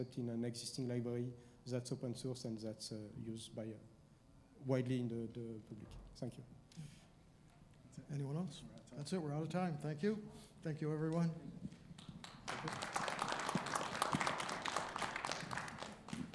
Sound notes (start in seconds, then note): 11.9 audience applauding